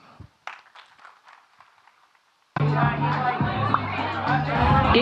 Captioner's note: audience clapping